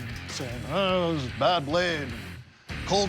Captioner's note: sputtering